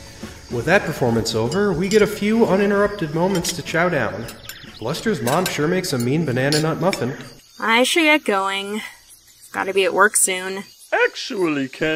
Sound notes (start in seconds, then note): 0.0 music fades out; 4.7 dishes clanking